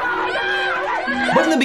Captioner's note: scream